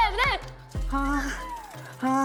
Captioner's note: flapping